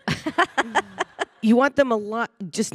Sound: panelist laughing

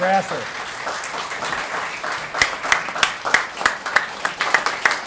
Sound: applause

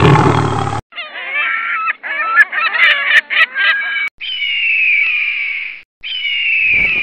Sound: laughs

